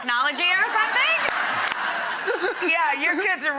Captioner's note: audience laughing